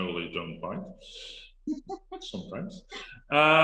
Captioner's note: laughs